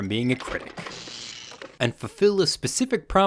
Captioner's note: electricity buzzing